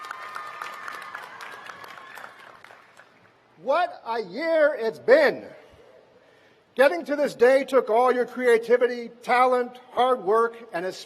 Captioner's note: cheers and applause